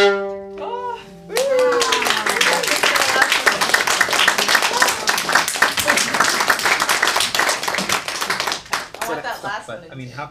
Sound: applause

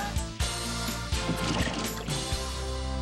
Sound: splosh!

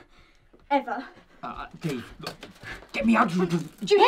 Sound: splutters

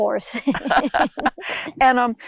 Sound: laughs

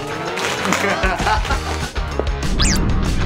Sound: laugh

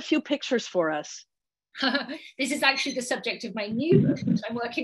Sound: laughs

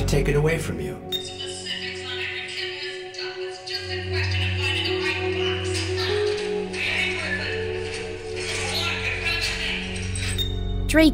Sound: movie Reel Plays

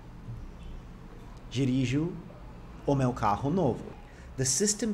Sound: speaking portuguese

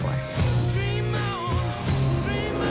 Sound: engine revs

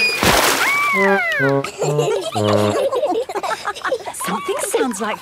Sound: all laughing

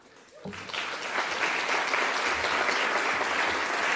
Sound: applause

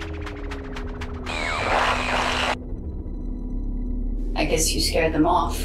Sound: screen buzzes

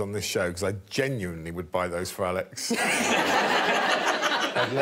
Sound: all laughing

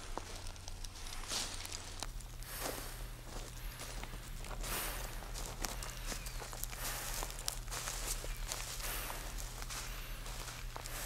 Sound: footsteps on wood chips

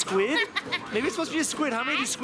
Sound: laughs

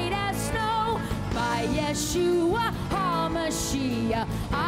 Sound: speaking foreign language

